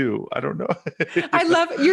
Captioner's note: laughing